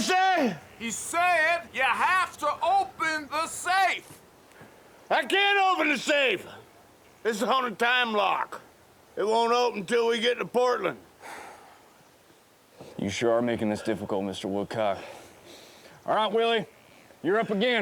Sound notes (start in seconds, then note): 3.1 engineer shouts; 11.2 sighs